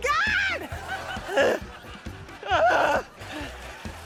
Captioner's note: grunts